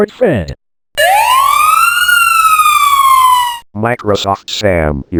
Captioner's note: florida Police siren